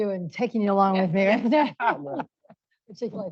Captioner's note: laughter